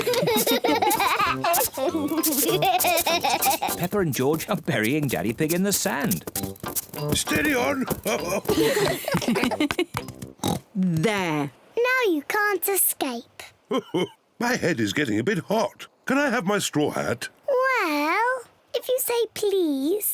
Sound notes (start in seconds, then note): 0.0 all laugh; 7.1 chuckles; 10.4 oinks; 13.7 laughs